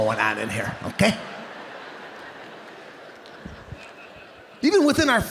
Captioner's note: audience laughing